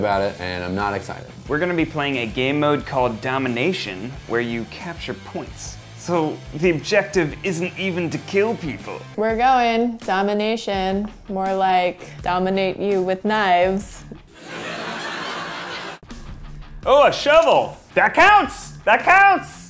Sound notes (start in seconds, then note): 14.4 fake audience applause